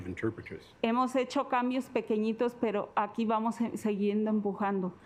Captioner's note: speaking Spanish